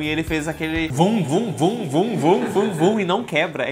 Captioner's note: sound effects